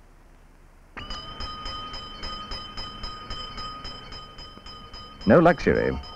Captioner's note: handbell ringing